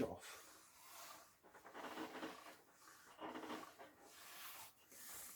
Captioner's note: ironing board creaking